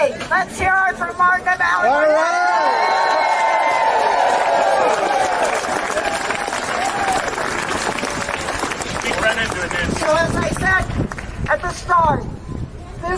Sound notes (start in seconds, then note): 8.0 applause